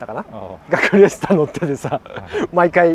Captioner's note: laughs